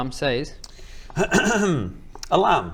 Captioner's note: clears throat